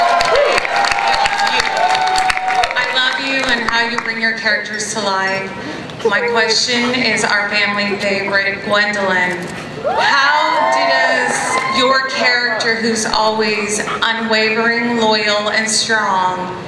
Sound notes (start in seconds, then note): 0.0 cheering, applause; 9.8 cheering